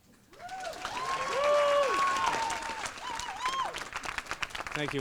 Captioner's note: applause and cheers